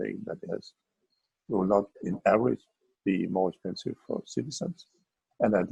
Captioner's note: murmurs